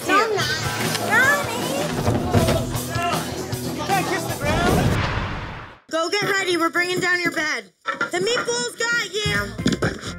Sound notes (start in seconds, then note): 1.9 crashing; 4.6 whooshing